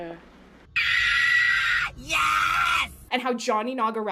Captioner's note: screams